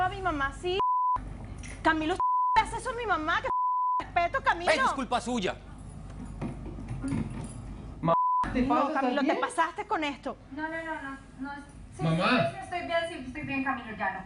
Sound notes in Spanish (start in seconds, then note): 2.2 Bip